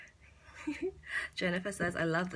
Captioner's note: giggles